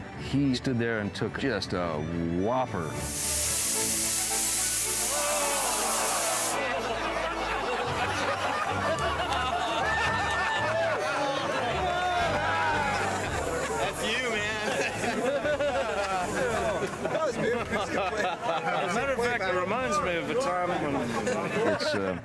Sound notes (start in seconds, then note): 6.7 laughter